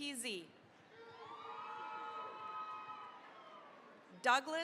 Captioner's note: cheering, applause